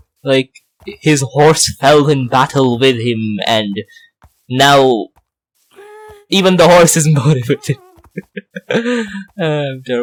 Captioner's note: laughs